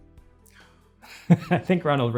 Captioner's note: laughs